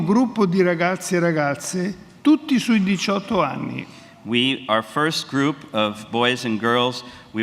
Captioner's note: speaks in Italian